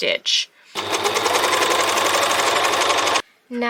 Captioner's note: overlocker making loads of noise